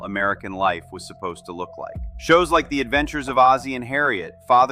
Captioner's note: thoughtful